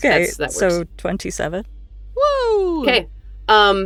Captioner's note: cheers